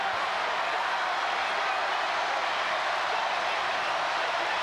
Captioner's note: crowd cheering